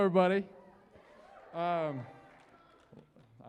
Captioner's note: cheering